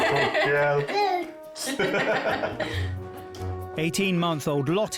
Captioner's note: laugh